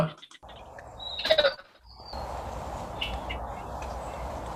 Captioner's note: bird chirping